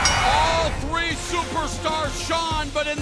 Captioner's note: bell ringing